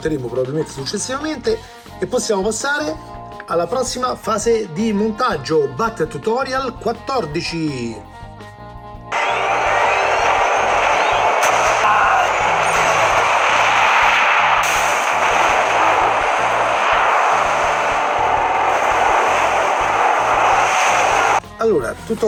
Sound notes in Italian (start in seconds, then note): 12.3 Applauso